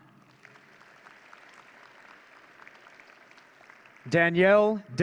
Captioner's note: audience cheering